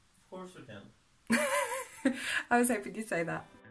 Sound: laughs like Mutley

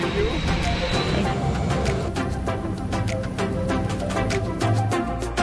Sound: plane engines roar; upbeat music

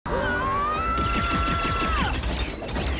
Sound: yells; weapons blast

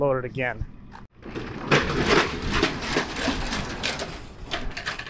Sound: door rattles open

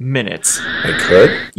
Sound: UFO humming past

